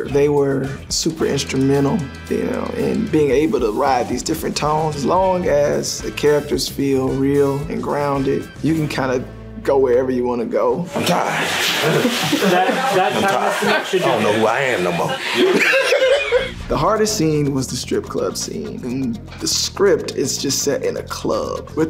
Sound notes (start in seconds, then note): 15.4 laughing